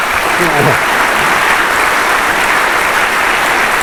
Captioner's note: applause